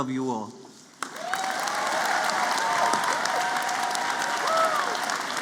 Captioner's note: applause